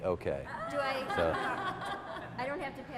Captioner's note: laughter